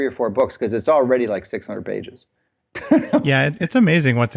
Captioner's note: laughs